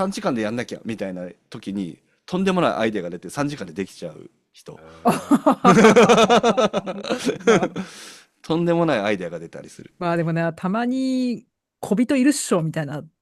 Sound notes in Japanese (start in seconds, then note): 4.8 笑い